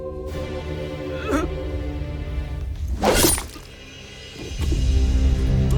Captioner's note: music swells; roluv groans; sword swishes; heavy music playing